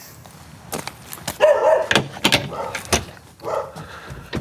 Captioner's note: dog barking, lock clunking